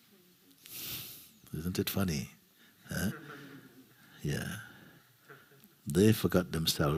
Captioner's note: laughter